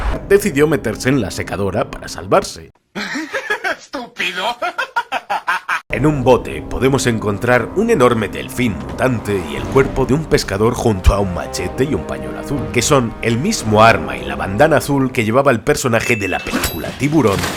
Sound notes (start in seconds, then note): 2.9 laughs; 4.1 more laughter